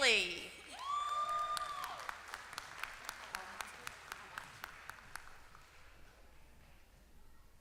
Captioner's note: applause